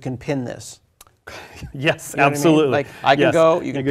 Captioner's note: laugh